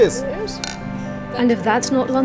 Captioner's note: glasses clinking